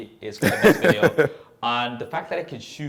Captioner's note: laughs